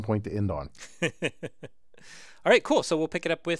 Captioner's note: laugh